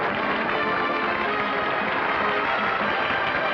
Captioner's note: applause